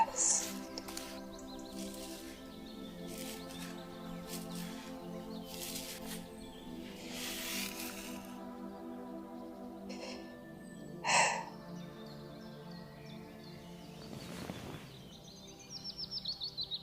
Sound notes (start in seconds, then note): 6.8 head petting/scratching stops; 11.0 sigh